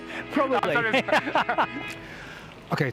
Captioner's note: laughter